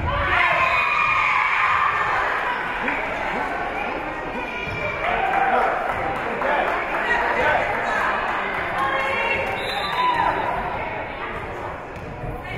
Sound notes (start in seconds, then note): 0.1 spectators cheering; 0.1 whistle being blown; 4.2 spectators shouting encouragements; 9.5 whistle being blown